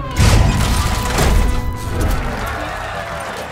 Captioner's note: crowd cheering, applauding